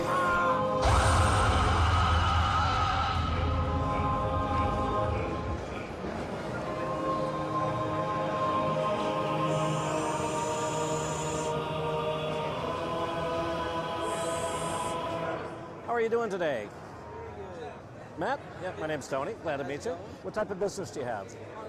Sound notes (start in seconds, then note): 0.8 screams; 8.8 electronic buzzing